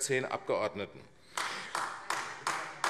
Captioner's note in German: Beifall AfD